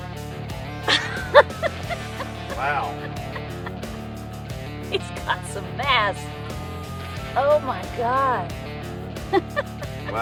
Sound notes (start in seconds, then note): 0.8 laughing; 9.2 laughs